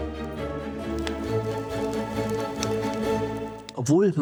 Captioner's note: sound of flames